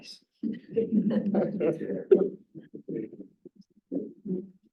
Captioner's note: laughter